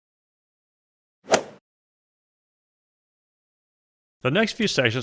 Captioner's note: golf swing sound effect